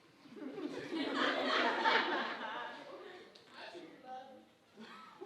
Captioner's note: audience laughing